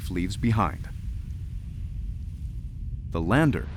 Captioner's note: crackle of particles flying through the air